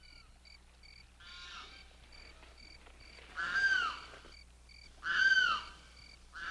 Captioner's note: a bird calls